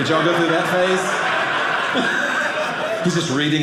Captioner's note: audience laughing